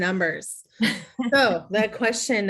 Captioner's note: laughing